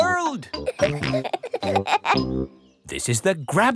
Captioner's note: peppa and george laughing